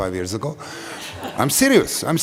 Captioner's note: laughter